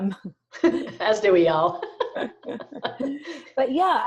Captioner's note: laughs